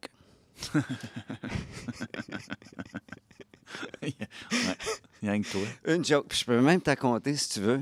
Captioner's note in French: rires